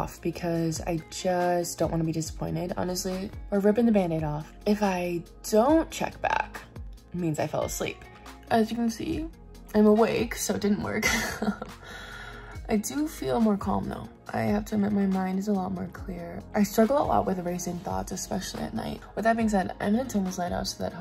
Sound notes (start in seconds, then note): 11.0 chuckles